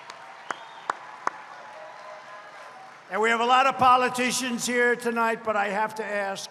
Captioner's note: applause